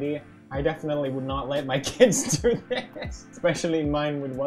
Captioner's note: laughing